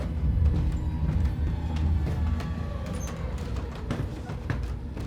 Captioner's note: stairs squeaking